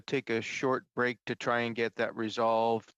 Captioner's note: speaking French